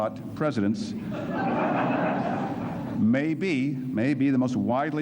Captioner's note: laughter